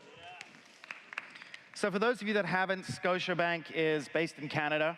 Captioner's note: cheers